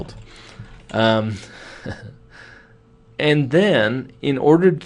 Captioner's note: chuckles